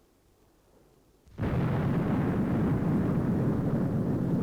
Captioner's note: explosion booms